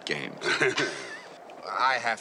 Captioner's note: chuckles